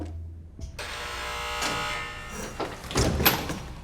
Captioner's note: door buzzes